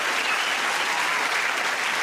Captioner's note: cheers and applause